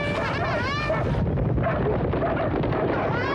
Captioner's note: horn blares; dogs bark